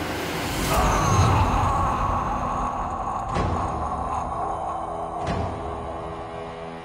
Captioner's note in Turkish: Bağırma Sesi